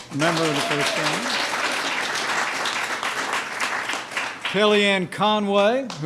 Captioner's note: applause